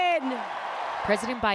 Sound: cheering

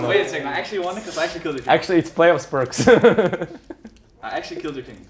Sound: laughs

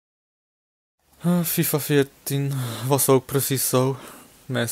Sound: sigh

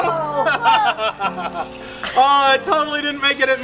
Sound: laughing

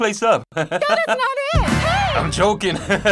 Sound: laughs

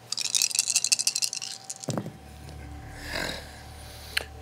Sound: dice rattling

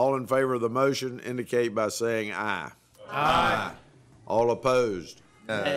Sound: chorus of ayes

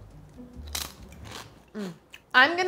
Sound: bacon crunching

